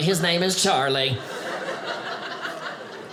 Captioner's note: audience laughing